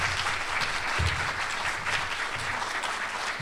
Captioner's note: applause